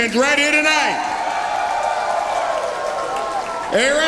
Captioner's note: audience cheers